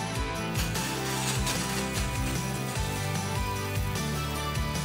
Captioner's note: water spraying